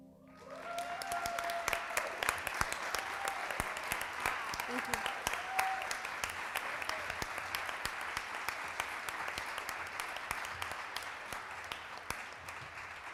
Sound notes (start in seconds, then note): 0.3 audience applauds and cheers; 6.0 audience applauds